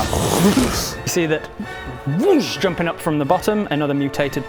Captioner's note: whoosh!